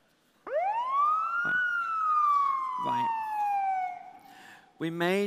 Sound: siren

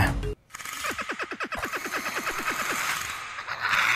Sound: coelophysis sounds

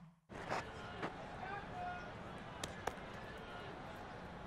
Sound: crowd yelling

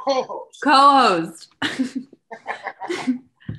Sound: giggles; laughs

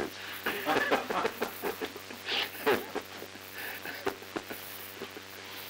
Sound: chuckle

